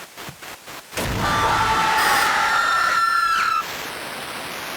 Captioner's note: everyone screaming